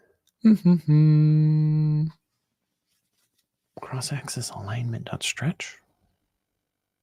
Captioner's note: humming